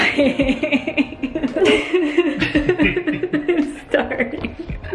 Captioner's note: laughing